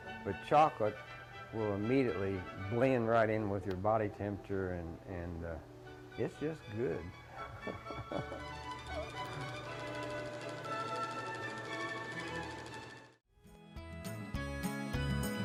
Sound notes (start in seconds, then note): 7.3 laughing; 7.3 gentle music; 8.6 machine clattering